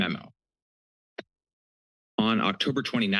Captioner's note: pause